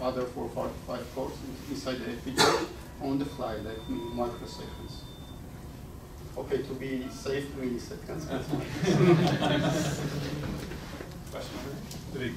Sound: laughter

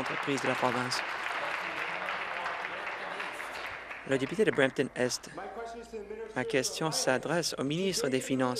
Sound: applause

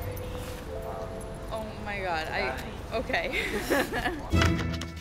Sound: laughs

